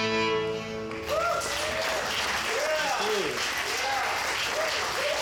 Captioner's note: audience cheers